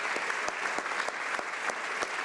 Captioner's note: applause